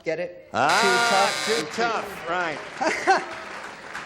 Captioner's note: buzzer